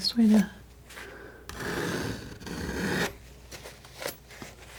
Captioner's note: scraping